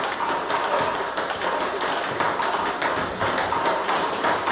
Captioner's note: ball ping pong hitting continues